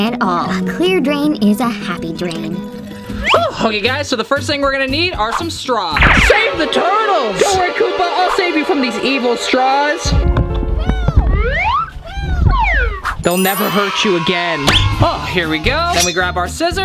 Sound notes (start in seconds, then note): 9.8 soft piano music; 13.4 audience cheers